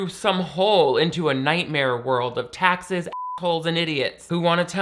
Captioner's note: beep